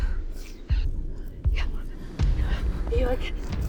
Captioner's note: all gasping